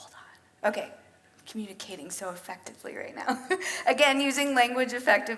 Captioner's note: laughs